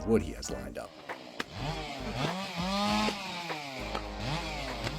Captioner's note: saw whirring